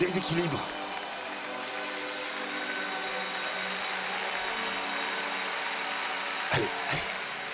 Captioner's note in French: applaudissements